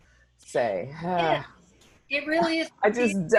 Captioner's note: sighs